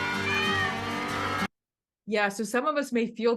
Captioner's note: cats meowing